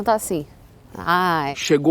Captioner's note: instant regret noises